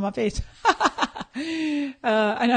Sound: laughing

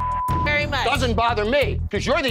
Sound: beeping

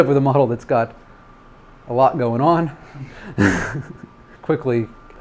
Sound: laughs

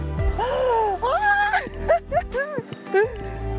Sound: laughs

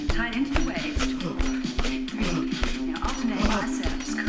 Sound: panting

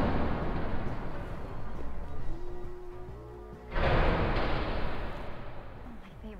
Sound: doors opening and closing

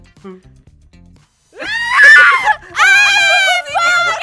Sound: screams and laughter; laughter on the background

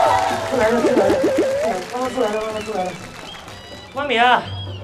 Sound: running in small steps

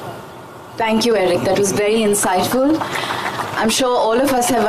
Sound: applause

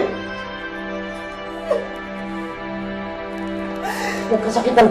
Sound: crying

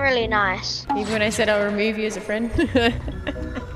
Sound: echoing; laughs

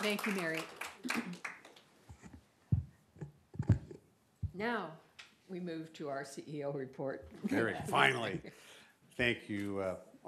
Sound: applause

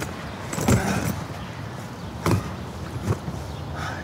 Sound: grunts

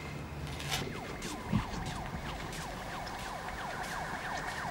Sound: sirens blare in distance

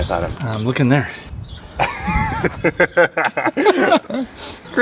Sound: laughter

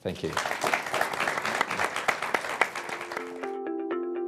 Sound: applause

